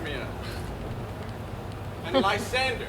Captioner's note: Hermia scoffs